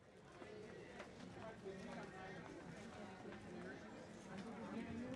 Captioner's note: audience chatting